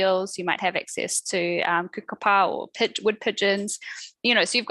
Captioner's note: non-english speech; non-english speech